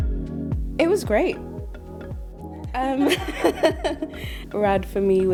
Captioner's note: laughs